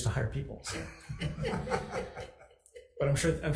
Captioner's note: several laugh